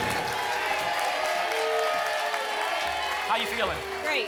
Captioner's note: applause and cheering cont